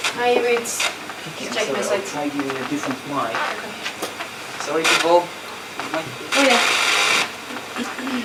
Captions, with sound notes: Check my slides. (chatter)